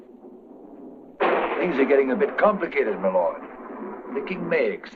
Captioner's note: thunder rumbles